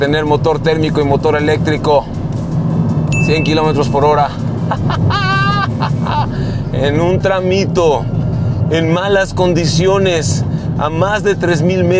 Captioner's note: laugh